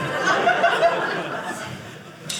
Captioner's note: audience laughing